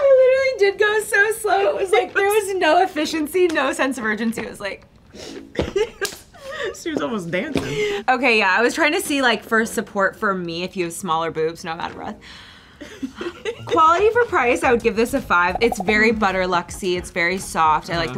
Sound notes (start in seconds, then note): 0.0 speaks in reverse; 6.2 laughs; 12.3 sighs; 13.1 laughs